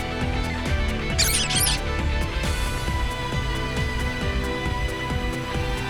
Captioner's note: squeaks